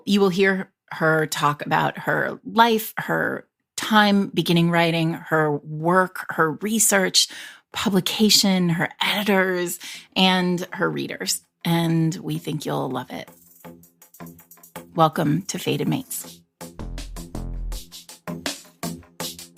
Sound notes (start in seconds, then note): none